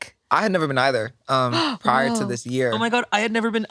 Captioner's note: gasps